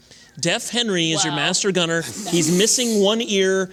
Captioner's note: laughs